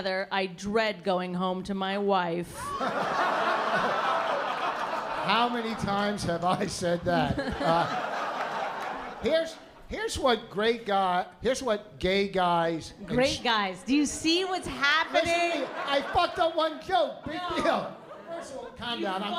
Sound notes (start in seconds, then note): 2.6 laughter